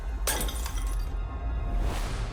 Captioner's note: bottle shatters